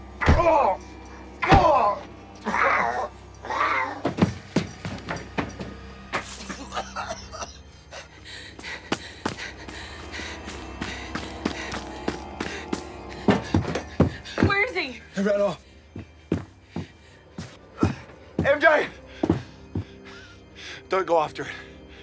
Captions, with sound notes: [Jake groans] [coughing] - Where is he? - He ran off. MJ! Don't go after it.